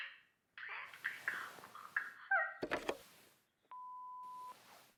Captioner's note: crying